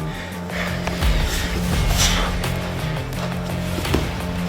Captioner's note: grunts